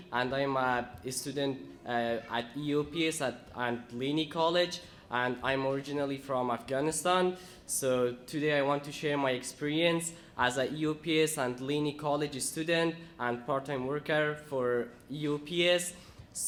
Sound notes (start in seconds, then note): none